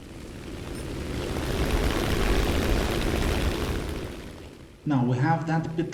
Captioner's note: aircraft Engines ,Gunfire, Flying Sounds